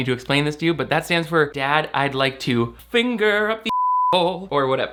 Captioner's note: beep